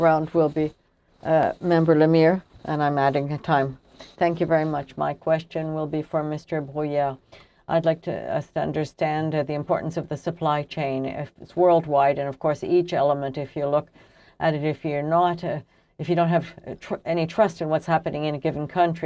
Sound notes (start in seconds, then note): 3.0 speaking french